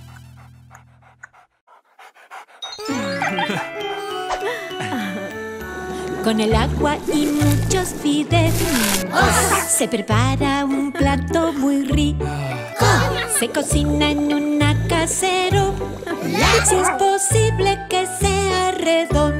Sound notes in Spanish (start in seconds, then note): 2.7 Música Alegre; 3.2 Risas; 7.0 Sonido de burbujeo